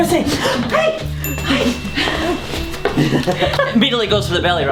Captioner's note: laughing